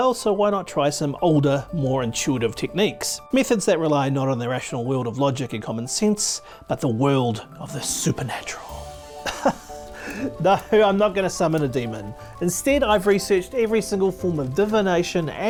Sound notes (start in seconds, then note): 9.2 presenter laughs